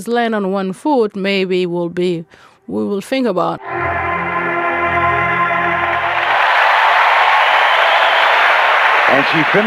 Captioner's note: crowd cheers